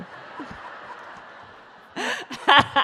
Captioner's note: laughter